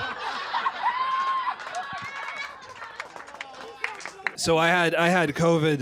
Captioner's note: laughter